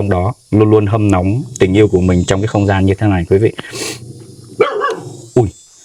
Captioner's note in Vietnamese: khịt mũi